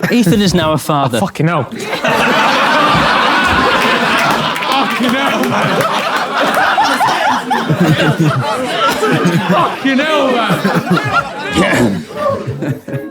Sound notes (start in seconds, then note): 2.3 people in room laughing